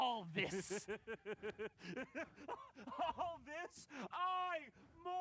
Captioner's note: laughs